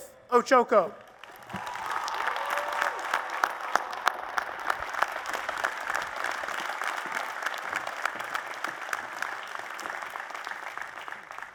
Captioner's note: applause and Cheers